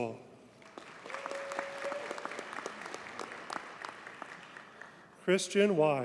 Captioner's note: audience cheers and applauds